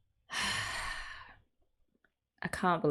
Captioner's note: sighs